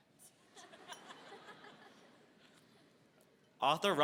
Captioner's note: laughter